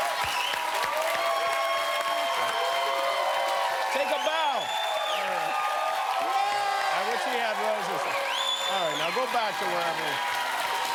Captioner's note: cheers and applause